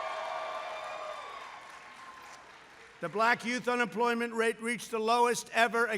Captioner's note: applause